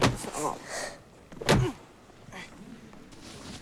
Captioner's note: grunts